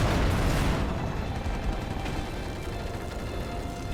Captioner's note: gunfire